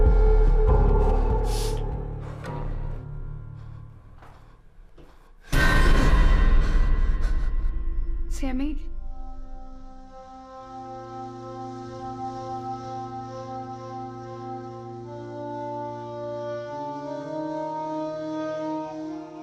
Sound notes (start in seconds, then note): 1.4 Sammy exhaling heavily; 5.8 Sammy gasping; 5.8 sudden ominous music; 9.8 solemn melodic music